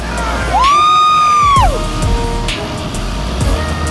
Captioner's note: man Shouting